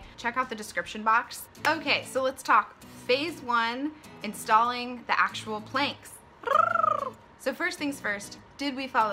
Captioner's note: excited r roll